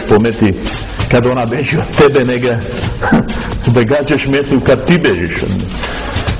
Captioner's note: laughs